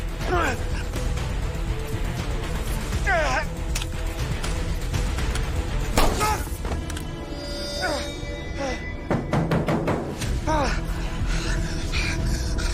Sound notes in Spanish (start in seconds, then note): 6.0 Disparo; 7.4 Quejidos